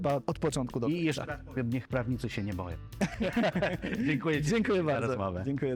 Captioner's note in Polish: śmiech